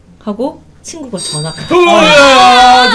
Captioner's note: ring